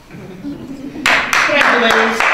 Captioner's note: applause